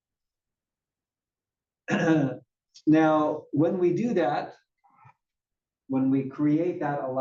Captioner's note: cough